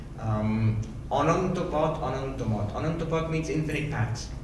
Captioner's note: speaking in foreign language